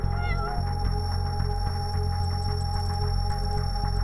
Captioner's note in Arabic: مواء القطة